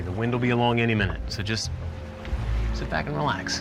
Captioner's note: none